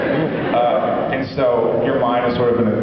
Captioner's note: laughs